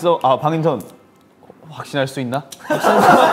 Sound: his voice shakes

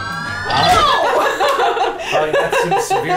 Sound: laughing

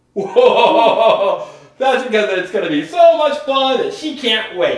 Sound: laughs

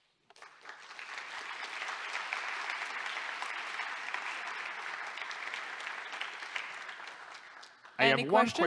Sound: applause

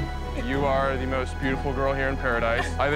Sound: both laughing

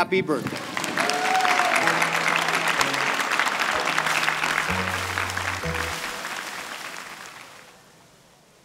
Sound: cheering and applause

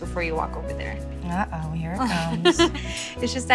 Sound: laughs

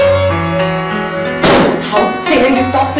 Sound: slams

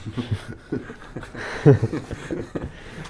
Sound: laughing

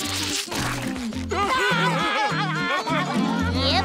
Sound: laughing

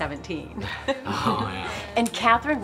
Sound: chuckles

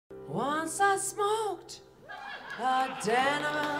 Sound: laughter

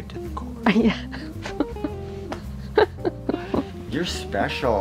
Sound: laughing

